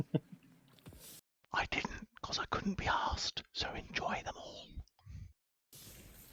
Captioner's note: whispers